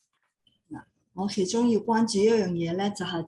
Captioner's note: non-english speech